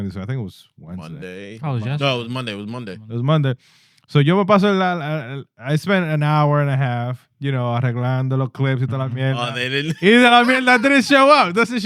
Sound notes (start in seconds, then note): 9.3 speaking Spanish